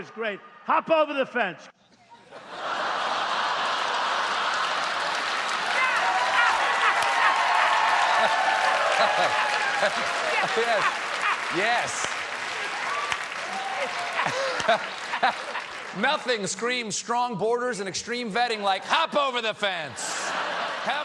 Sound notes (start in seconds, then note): 2.9 applause; 4.0 laughter